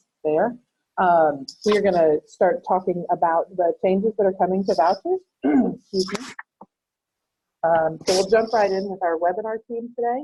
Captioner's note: clears throat